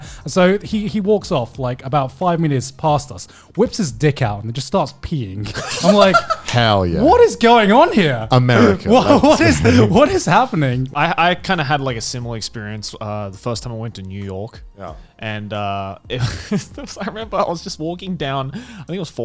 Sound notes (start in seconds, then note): 5.5 laughing; 15.4 laughs quickly